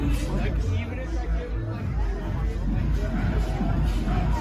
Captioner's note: passersby murmuring